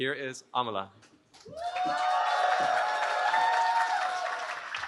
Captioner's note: cheering